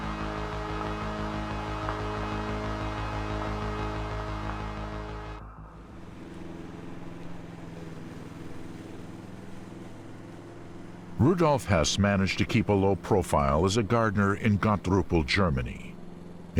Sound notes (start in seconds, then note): 0.2 tense music; 7.2 lawnmower whirring